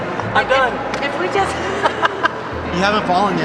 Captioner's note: laughs